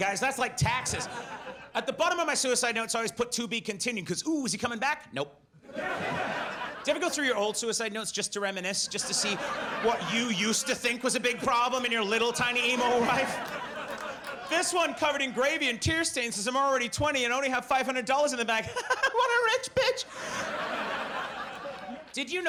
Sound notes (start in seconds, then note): 5.7 audience laughs; 18.6 laughs